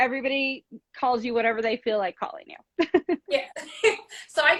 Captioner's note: laughs